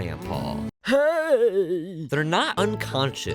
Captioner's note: grandpa voice